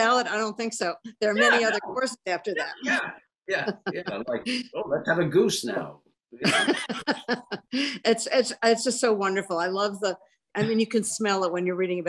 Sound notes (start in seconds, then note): 6.4 laughs